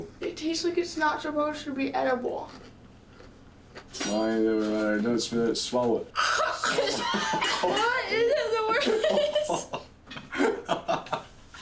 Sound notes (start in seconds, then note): 6.3 hacking; 9.9 laughing